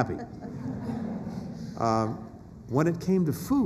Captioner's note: laughter